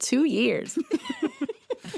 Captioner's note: laughter